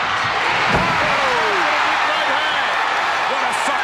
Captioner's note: audience cheering